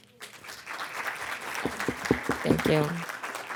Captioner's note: audience clapping